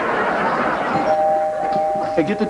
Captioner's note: doorbell rings